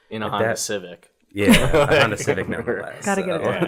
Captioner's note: laughs